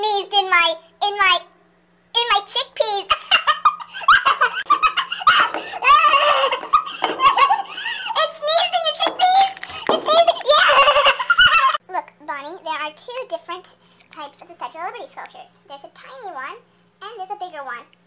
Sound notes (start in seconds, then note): 6.8 laughs; 10.2 laughs